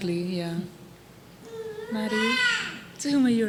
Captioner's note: baby vocalizing